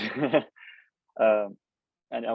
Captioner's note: laughs